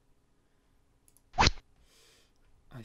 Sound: rod sound

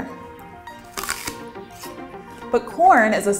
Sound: takes bite of apple

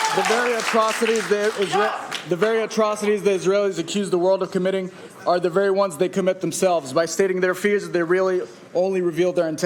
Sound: applauding

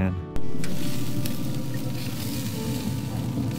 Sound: food hissing

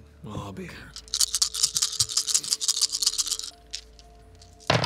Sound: dice rolling

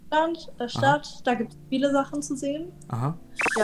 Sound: German

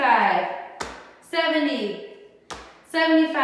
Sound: stamps foot

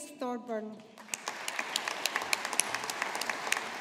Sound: audience applauding

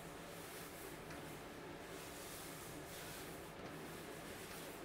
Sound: artwork rustling

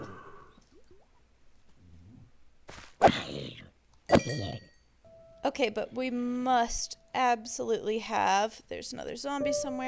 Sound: zombie groans

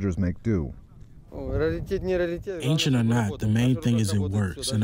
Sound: through translator

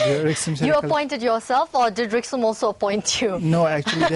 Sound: laughing

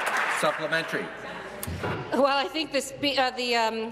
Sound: applause

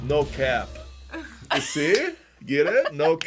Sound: laughs

